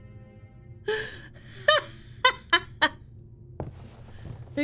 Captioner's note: laughs